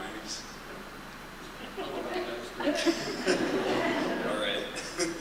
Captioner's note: laughter